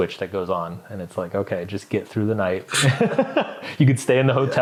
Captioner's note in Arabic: يضحك